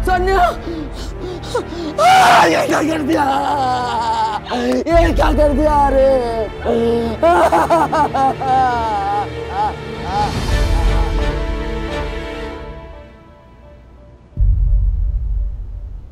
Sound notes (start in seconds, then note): 5.9 crying; 5.9 screaming